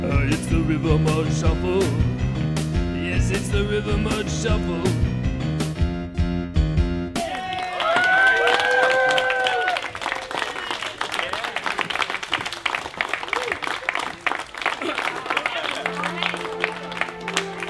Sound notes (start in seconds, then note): 7.6 applause and cheering